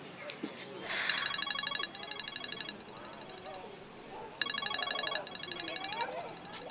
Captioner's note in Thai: เสียงโทรศัพท์